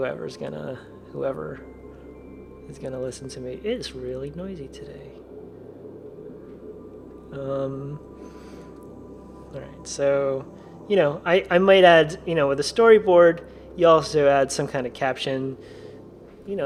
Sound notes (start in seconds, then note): 5.2 plane flying overhead